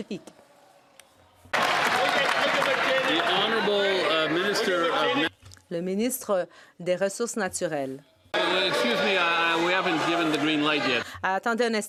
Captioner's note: some Applause